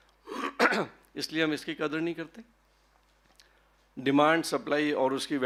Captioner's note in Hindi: गला साफ़ करने की आवाज़